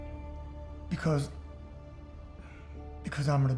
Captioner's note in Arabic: يقول عاطفياً